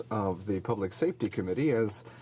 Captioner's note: speaking in French